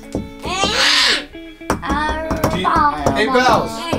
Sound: screams

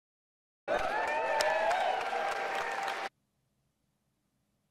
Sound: people cheering

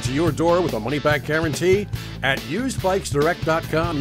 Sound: none

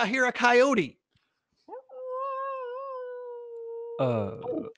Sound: imitates Coyote sound in distance

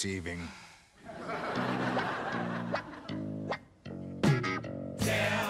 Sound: audience laughing

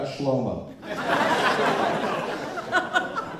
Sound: laughter

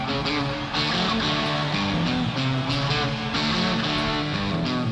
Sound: crowd cheering

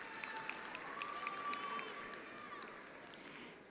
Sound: attendees applauding

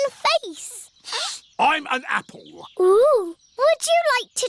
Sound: sniffs

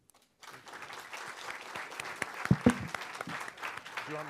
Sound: students clap

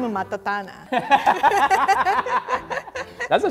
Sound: laughing

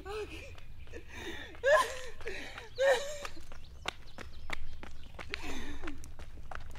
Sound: crying

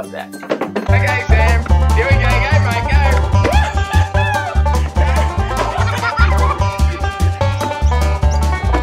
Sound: laughing

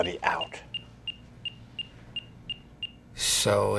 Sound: rapid beeping continues

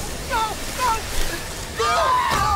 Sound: huge storm; terror screams

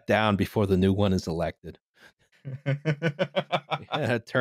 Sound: laughs

